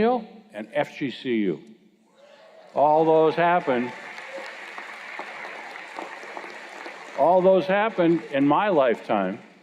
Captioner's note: cheers and Applause